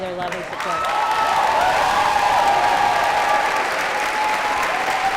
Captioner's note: cheers and applause